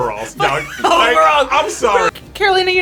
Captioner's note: laughs